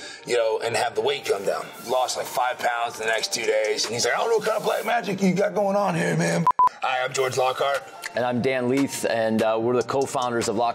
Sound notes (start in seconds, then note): 6.4 beeping